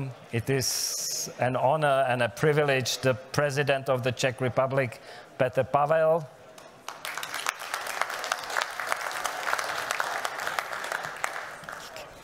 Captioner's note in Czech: Potlesk